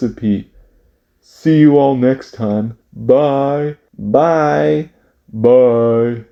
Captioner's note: speaking